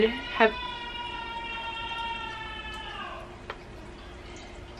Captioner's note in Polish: krzyk